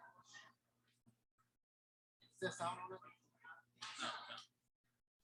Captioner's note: people chattering indistinctly